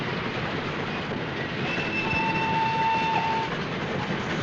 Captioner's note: whistle blows